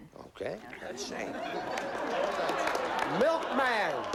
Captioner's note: laughter